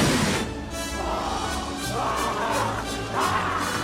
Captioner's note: snarling, Growling